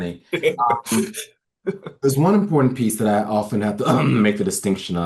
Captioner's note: laughs; clears his throat